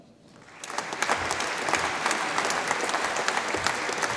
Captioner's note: audience applauds